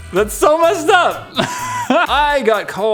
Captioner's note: laugh